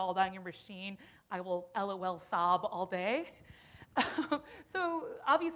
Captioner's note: chuckles